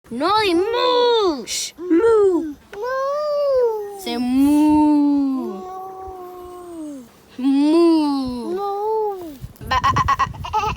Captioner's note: laugh